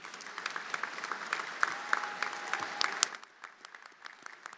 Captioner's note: everyone applauding